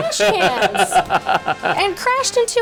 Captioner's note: laughing